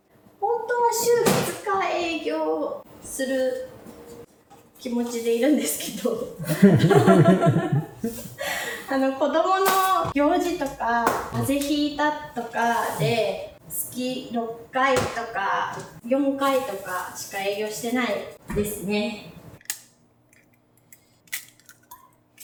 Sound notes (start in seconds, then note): 6.4 laughs